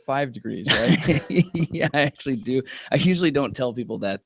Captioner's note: laughter